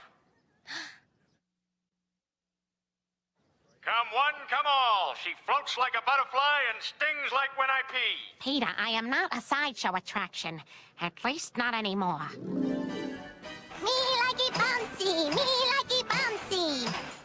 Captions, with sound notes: (GASPS) COME ONE, COME ALL. SHE FLOATS LIKE A BUTTERFLY AND STINGS LIKE WHEN I PEE. PETER, I AM NOT SIDESHOW ATTRACTION AT LEAST NOT ANYMORE. ME LIKEY BOUNCEY! ME LIKEY BOUNCEY!